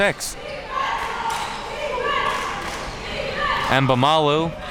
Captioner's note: crowd chanting defense